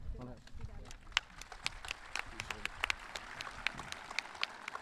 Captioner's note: audience clapping